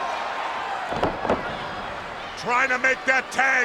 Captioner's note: body thudding